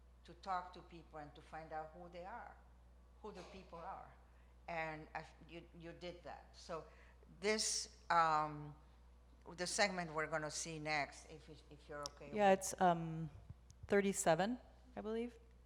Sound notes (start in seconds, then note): none